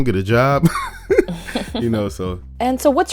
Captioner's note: both laugh